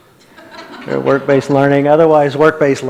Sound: audience laughs

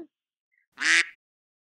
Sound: quack

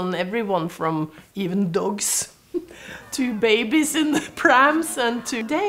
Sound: laughs

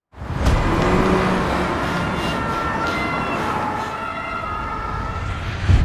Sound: ruido de calle; street noise

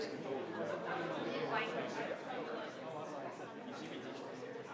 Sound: crowd chattering continues

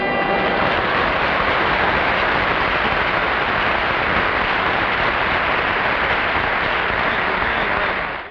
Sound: audience applauds

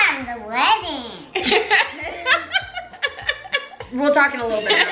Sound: laughs

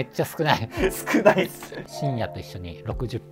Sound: laughing

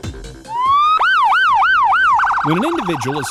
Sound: siren

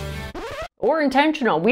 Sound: upbeat rock music; record scratches

